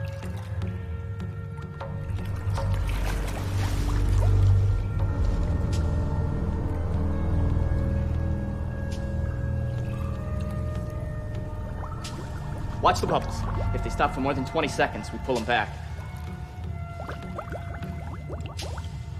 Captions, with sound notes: [water drops falling] [water bubbling] - [water drops falling] - [water bubbling] Watch the bubbles. If they stop for more than 20 seconds, we pull him back. [water bubbling]